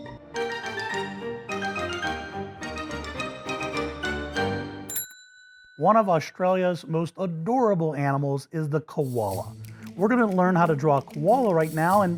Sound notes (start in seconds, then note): 4.9 dinging